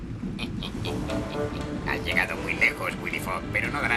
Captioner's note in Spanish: risa malvada